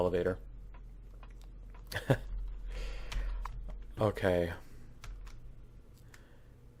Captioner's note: laughs